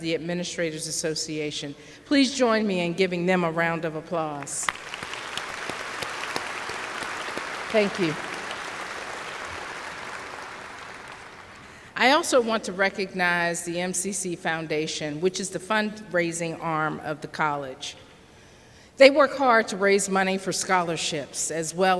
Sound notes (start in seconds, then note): 4.4 applause